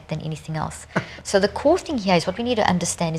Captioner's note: laughs